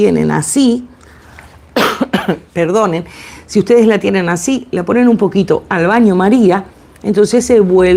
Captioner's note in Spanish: carraspeo